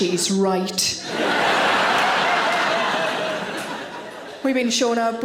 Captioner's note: audience laughing